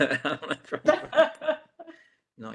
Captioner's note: laughing